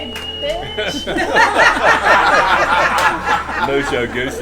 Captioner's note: laughter